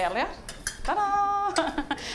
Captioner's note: laughing